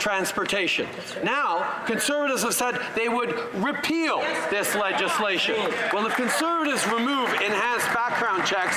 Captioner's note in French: voix de l'interprète